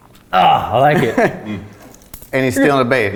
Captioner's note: laughs